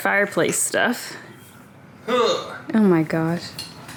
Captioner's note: heaving